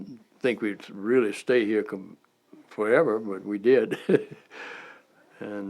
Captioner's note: chuckle